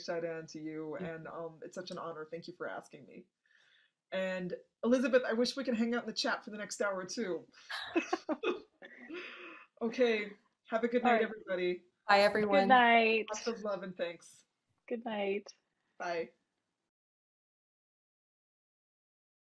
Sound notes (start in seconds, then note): 7.7 all chuckling